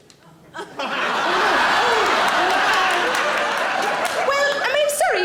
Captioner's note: audience laughing